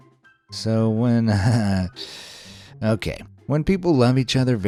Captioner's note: wryly chuckles